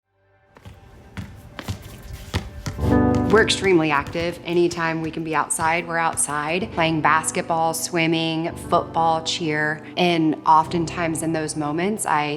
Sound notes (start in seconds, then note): 0.6 gentle music; 0.6 basketballs bounce